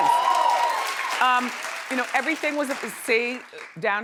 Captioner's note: audience cheering